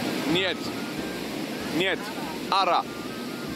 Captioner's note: Spanish; Georgian